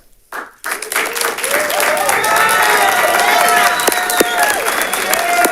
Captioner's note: audience cheers and applauds